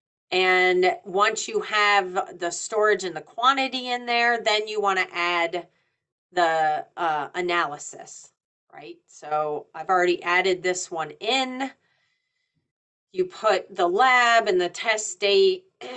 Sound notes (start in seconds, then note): none